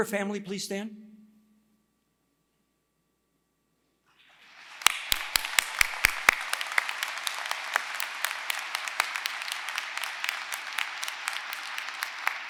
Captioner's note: applause